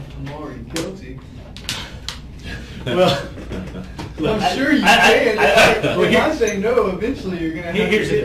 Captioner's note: laughs